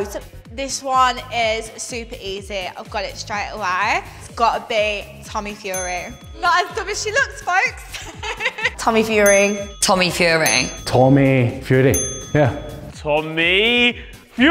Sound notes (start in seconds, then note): 5.7 correct bell; 7.8 laughs; 8.8 correct bell